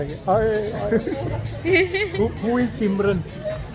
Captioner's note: laugh